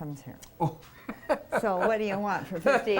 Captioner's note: laughs